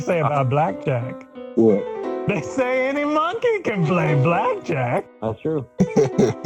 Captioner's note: laughter